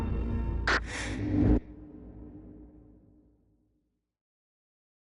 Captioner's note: quick inhale of oxygen